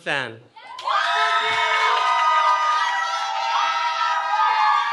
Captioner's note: cheering